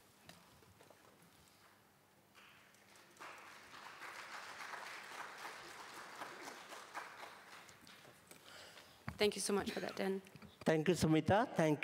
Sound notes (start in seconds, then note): 0.0 applause; 2.8 applause